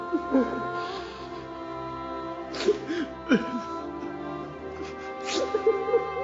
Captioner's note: sobbing